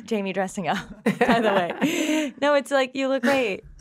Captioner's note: all chuckling